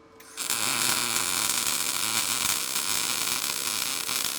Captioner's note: metal sizzling